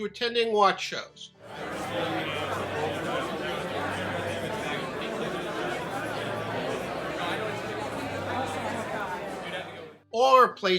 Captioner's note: crowd noise